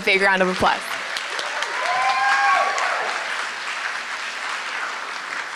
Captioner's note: applause